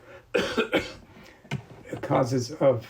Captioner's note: coughing